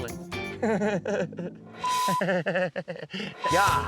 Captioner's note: laughing